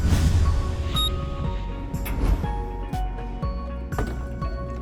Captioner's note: elevator beeping